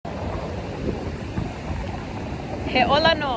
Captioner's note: sound of waves in background